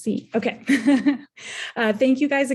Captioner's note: chuckling